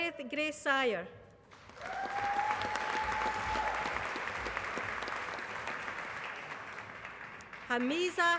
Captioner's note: applause